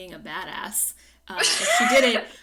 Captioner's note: laughs